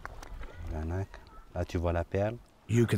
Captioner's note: speaking French